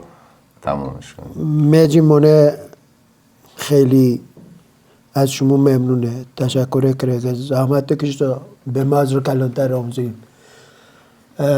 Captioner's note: speaking in Dari Persian language